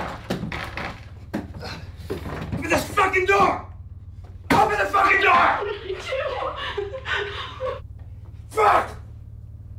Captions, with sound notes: - Open this fucking door! Open the fucking door! (crying) Fuck!